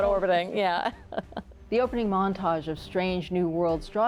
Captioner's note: chuckles; laughs